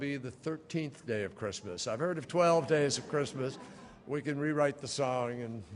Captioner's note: laughter